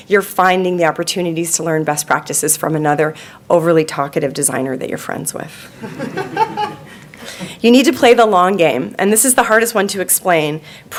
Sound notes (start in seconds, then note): 5.8 audience laughing